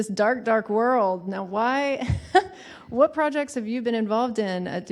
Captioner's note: laughs